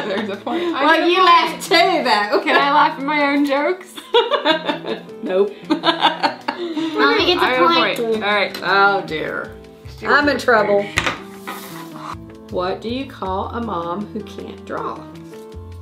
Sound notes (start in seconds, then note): 5.6 laughing; 15.6 upbeat music